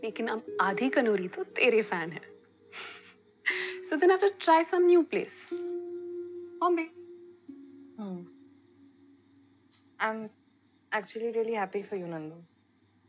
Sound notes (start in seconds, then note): 2.8 Chuckles